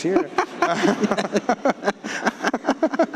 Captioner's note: laughing